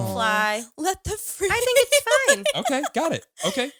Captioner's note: laughs